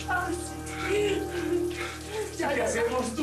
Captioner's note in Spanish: Sollozos